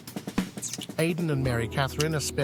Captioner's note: lips smooching